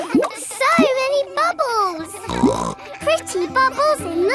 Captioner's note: snorts